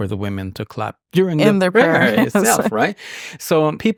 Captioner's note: chuckles